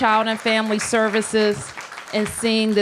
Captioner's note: applause